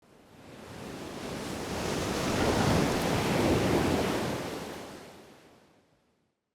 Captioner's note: waves crashing